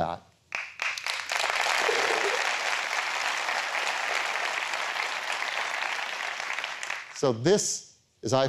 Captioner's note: applause